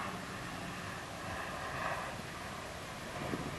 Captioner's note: high Speed Train noise in the distance - sound